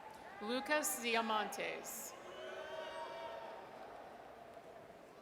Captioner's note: audience cheers